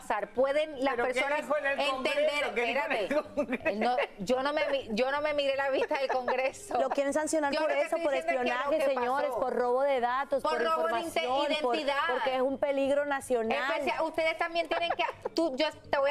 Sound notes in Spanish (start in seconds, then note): 3.1 risas